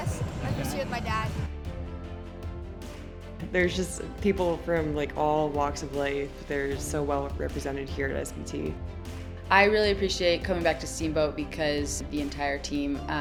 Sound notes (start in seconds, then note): none